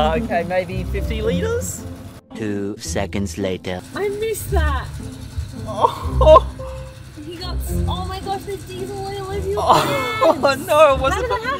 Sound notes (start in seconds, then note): 5.6 scoffs